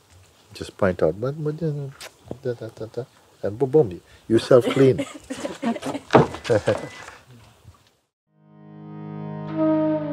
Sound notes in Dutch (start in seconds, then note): 4.4 gelach